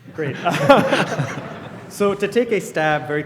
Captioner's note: laughter